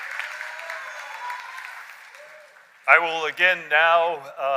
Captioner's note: cheers and applause